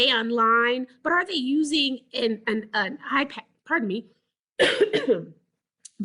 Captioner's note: clears throat